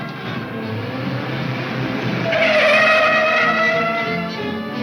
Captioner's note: tires squealing